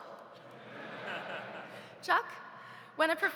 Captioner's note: audience laughs